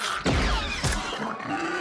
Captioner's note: creature squeals